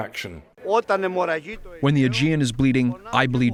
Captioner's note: through translator